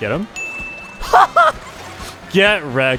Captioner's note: laughs